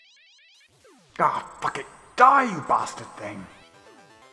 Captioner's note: angry swearing